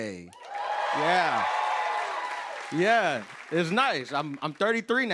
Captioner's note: cheers and applause